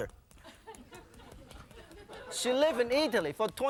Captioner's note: audience laughing